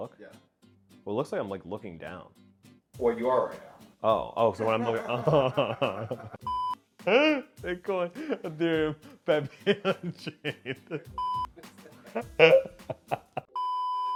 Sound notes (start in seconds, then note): 4.6 laughing; 6.4 beep; 7.3 laughing; 11.2 beep; 12.0 laughing; 13.5 beep